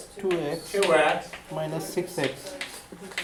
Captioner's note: voiceover